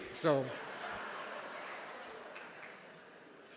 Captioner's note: audience laughs